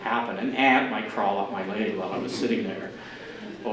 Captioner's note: general audience laughter